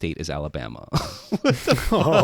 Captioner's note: both laughing